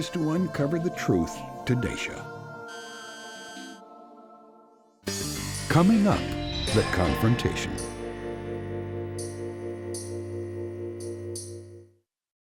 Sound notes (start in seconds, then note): none